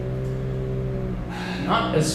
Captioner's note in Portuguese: NOUTH NOUTRE suspira